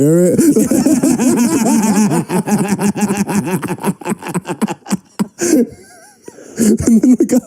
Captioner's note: laughter